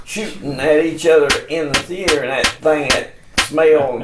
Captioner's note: gun pops